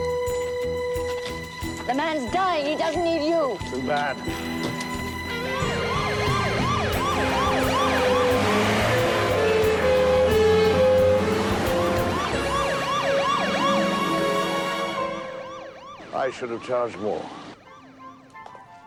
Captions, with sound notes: - The man's dying, he doesn't need you! - Too bad. (siren blaring) - I should have charged more.